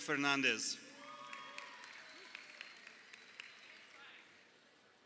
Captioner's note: crowd cheering